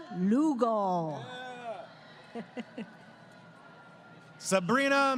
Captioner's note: crowd Cheering